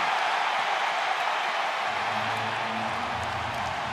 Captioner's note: crowd cheering